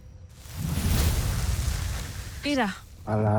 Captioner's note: infernal whoosh-crackle